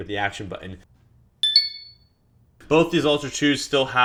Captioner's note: alert chimes